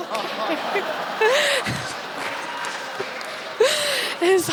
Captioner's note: audience laughs